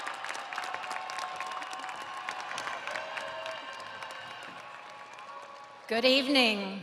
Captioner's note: audience applauding; audience cheering